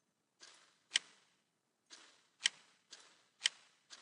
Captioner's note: clicking